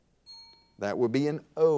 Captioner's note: bell rings